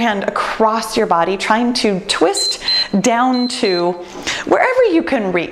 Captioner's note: timer beeps